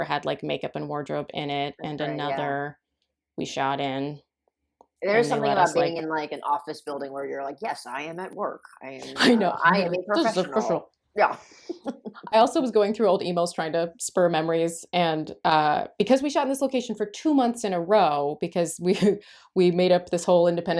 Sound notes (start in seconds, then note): 7.4 deep business voice; 11.7 laughter